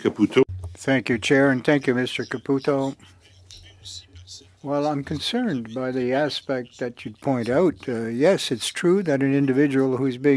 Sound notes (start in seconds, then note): 2.9 speaking French